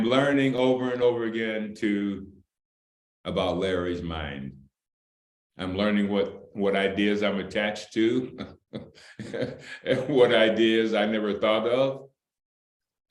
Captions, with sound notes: I am learning over and over again too about Larry's mind. I'm learning what ideas I'm attached to (Laughter) and what ideas I never thought of.